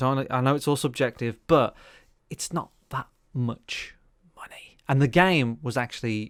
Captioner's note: whispers